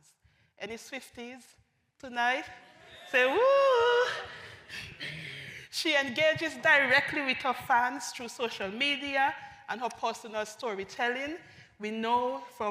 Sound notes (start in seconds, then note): 5.1 audience woos